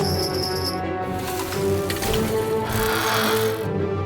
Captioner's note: bells jingling